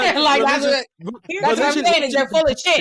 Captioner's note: group chattering